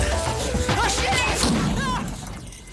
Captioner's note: shouts; explosion rumbles